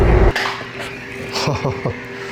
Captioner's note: intense suspenseful music; object clanks